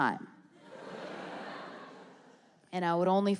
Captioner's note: audience laughs